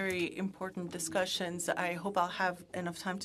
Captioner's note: speaking French